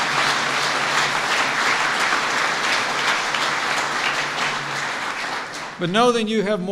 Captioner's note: applause